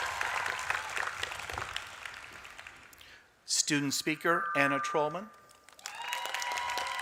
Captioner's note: applause; applause